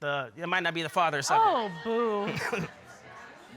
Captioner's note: chuckles